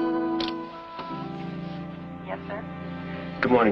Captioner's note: on phone